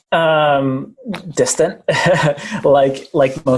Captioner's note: giggling